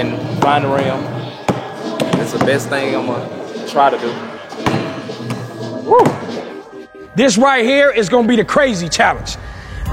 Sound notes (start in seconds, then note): 6.0 ball bouncing